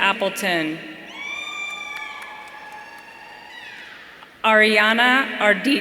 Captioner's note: audience cheering